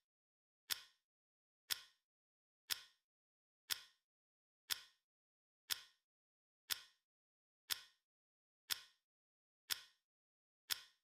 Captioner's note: clock ticking